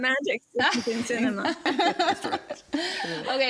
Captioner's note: group laughs